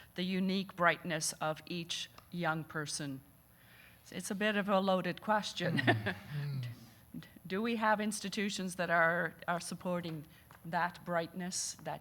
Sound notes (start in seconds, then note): 6.7 laughing